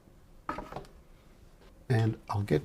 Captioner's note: silence